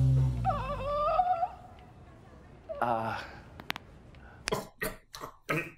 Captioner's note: makes weird disappointed noise? Then cracks his neck